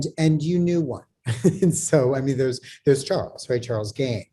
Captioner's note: laughs